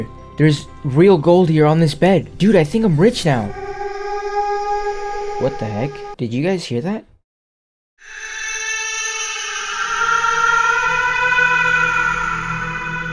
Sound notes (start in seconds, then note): 2.8 creepy baby noise; 8.0 creepy baby noise; 8.0 ominous music starts playing